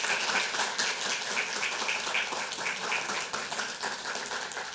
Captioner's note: audience applauding